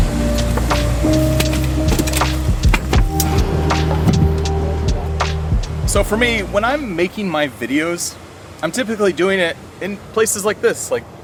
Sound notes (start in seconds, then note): 4.0 visitors chattering